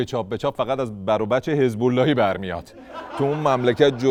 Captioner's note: laughter